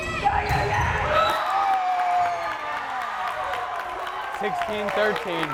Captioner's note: crowd cheering